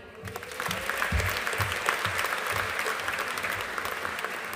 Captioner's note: audience applauding